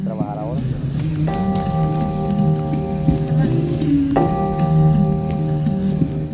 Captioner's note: speaking Spanish